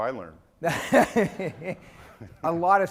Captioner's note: laughing